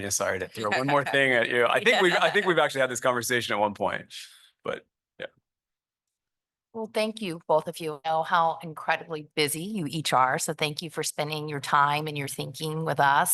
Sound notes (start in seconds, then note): 3.1 laughter